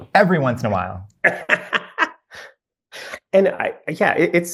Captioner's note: laughs